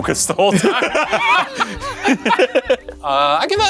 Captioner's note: both laughing